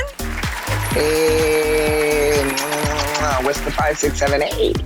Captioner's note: audience applauding; cheering and smooching